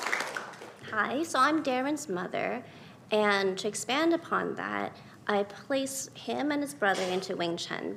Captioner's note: applause